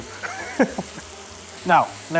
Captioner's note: laughs